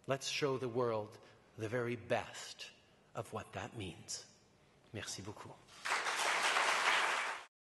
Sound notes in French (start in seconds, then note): 5.7 Applaudissements